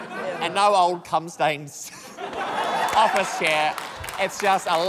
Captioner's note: laughter; chuckles